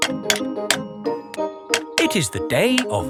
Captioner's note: clanking